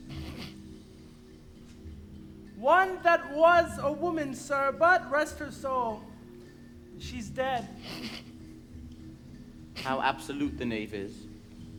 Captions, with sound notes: (gravedigger snickers) - One that was a woman, sir, but rest her soul, she's dead. (snickers) - How absolute the knave is.